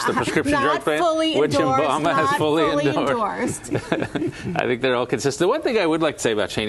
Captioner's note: laughter; laughter